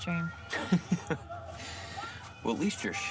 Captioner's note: Louie laughs